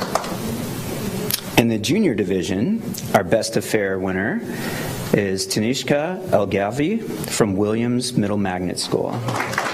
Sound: applause

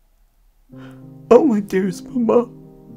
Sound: shallow breathing

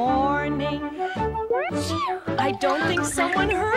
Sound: sneezes

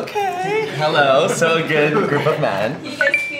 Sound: laughs

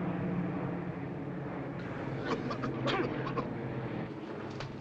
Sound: coughing

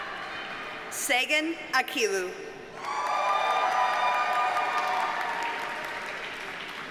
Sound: audience cheers and applauds

